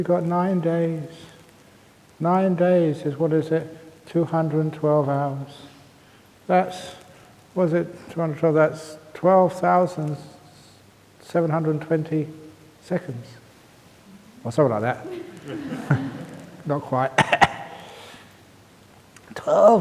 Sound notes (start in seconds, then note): 14.8 laughs